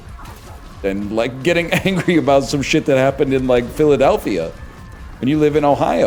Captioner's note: chuckles